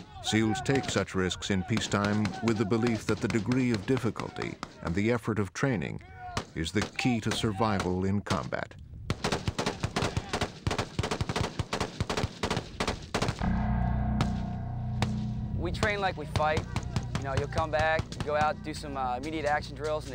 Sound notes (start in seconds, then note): 9.1 rapid, continuous gunfire; 13.4 ominous instrumental music